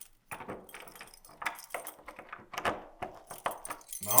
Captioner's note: key clanging